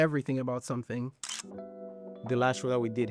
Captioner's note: camera clicks